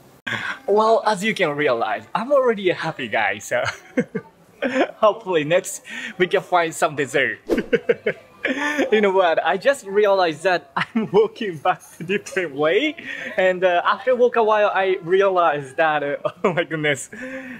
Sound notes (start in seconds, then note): 3.5 chuckle; 7.5 chuckle